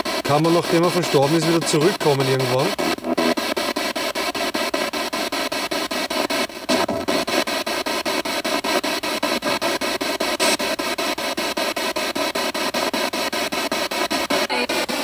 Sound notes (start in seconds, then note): 3.3 radio noise from the spirit box